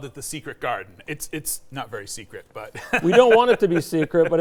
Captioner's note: laughs